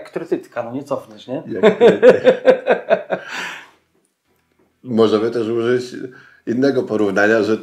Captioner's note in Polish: śmiech